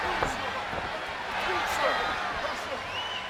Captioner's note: crowd cheers